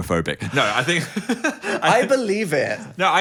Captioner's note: laughing